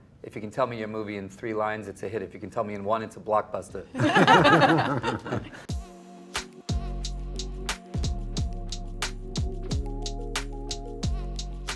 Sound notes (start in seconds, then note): 3.9 they laugh; 6.0 relaxed music